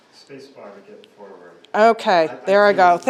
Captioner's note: man speaking